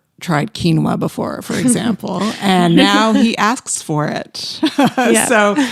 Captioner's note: laughs